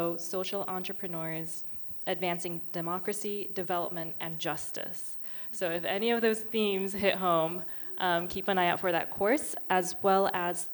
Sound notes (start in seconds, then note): none